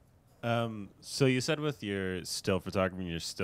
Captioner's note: voiceover